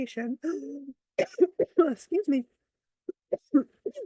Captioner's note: coughs